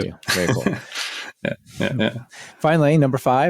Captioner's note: laughing